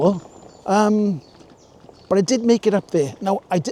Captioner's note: laughing